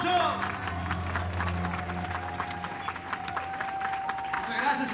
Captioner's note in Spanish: Arengas del público